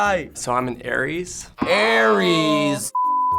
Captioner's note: buzzer rings